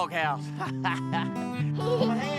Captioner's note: chuckling